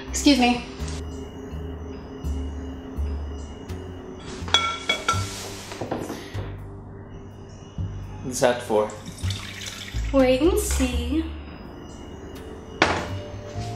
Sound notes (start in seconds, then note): 6.0 sound of liquid pouring